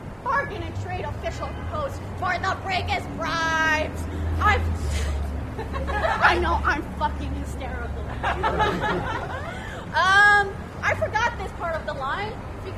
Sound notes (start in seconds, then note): 4.7 laughs; 8.0 laughter